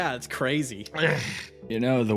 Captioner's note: Yaiyo sighs